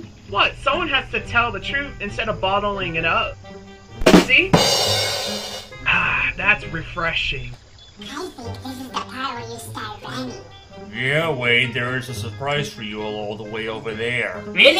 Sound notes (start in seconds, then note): 8.3 whispers